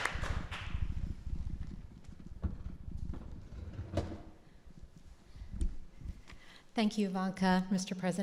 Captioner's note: applause